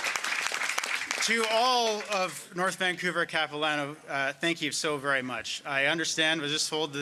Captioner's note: applause